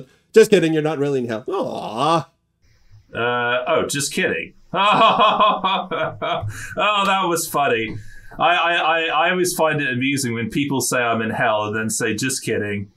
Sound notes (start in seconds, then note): 4.7 fake laugh